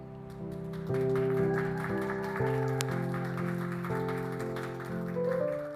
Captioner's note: applause